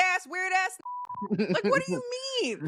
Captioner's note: beep